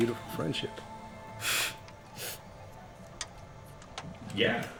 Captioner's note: gasp from inhaler